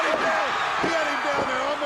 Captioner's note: crowd cheering